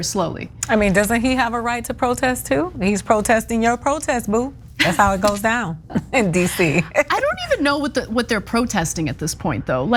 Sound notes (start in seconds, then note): 5.9 laugh